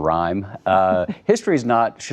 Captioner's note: laughter